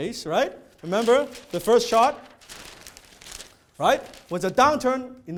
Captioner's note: paper rustling